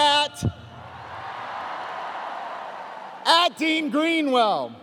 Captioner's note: cheers